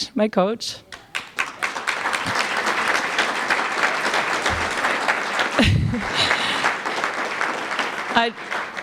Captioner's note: applause